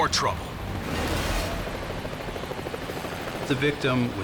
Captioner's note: plane roaring